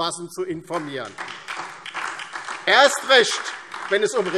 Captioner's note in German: Beifall DIE LINKE und SPD